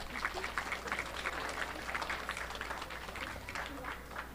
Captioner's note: audience clapping